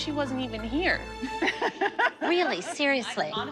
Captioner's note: laughter